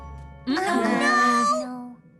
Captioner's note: negative murmurs